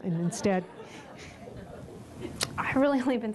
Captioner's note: laughter